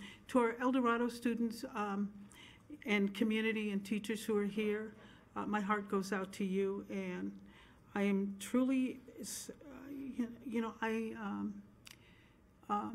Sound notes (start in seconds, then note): none